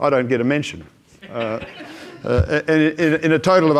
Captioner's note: audience laughs